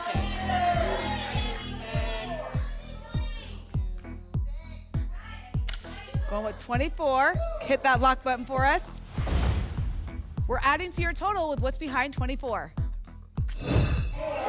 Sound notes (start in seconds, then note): 0.0 audience shouting numbers; 9.0 whoosh; 9.2 thump; 13.5 whoosh